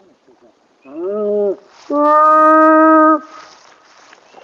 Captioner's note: animal calling